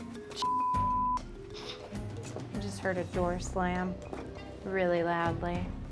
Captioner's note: beep